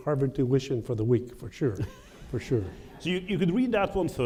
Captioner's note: laughter